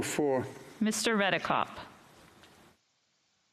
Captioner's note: speaking French